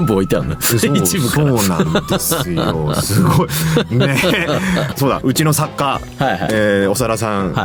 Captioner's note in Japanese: 笑い